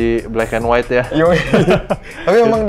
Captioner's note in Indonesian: ketawa